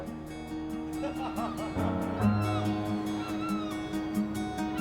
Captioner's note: seagulls crying; group laughs; calm music continues